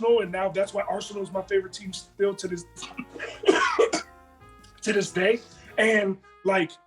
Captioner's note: cough